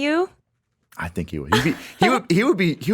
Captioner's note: chuckles